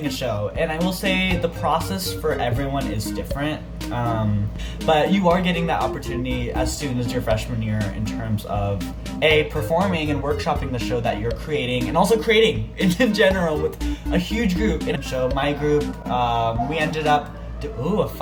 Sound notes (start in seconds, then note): 13.7 fire truck noises